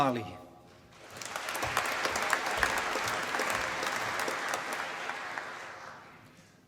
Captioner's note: applause